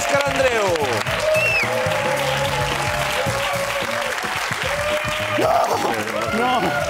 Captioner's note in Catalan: aplaudiments